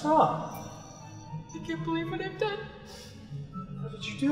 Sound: sniffles

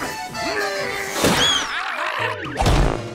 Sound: screaming

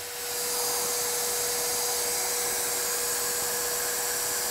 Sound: saw humming

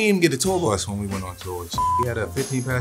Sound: beeps

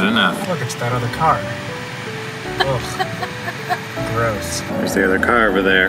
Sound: laughing

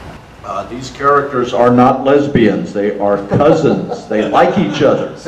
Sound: audience laughter

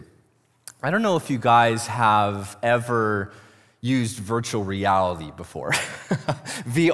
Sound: laughs

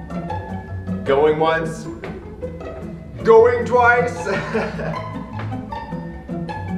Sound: chipper music; laughs

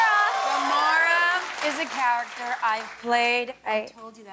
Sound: cheers and applause

